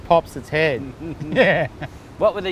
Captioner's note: laughs